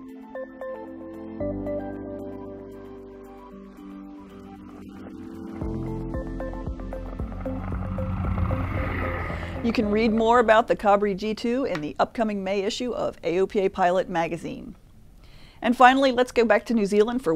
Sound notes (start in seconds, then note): 7.4 engine roars